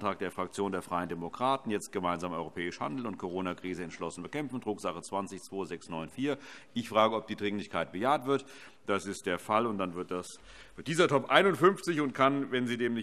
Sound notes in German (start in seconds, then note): none